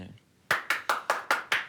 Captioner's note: applause